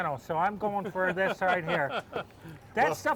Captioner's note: laughter